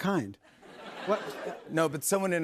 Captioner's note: laughter